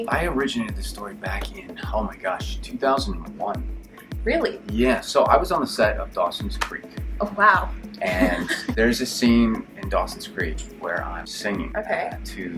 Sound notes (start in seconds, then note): 8.0 laughs